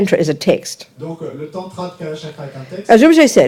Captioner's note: audience member speaks in French